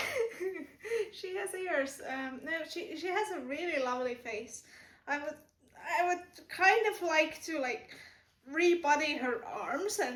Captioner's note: laughter